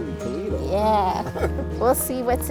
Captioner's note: chuckles